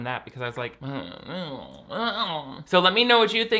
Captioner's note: groans